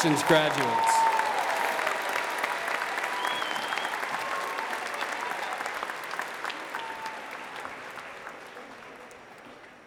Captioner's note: applause